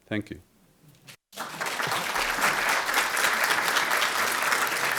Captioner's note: audience applauds